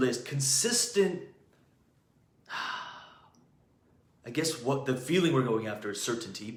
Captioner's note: sighs